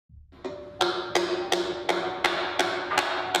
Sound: hammer banging

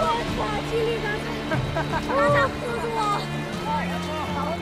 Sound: laughing, speaking Chinese dialect

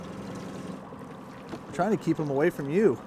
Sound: boat engine idling

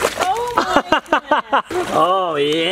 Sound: splashes; laughs

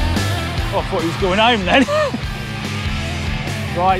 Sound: laughs

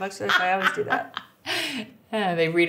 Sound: laughing

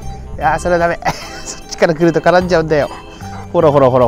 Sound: laughs

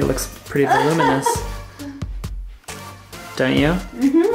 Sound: laughs

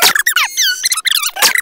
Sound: cassette_tape_rewinds_faster.wav

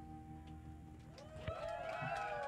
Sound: cheers

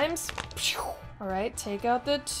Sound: dice rolling, swooshing

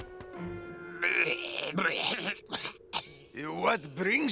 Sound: coughing

